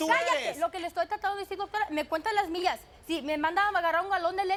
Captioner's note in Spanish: Hablan al unísono